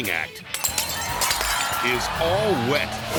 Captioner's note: glass shattering; audience screaming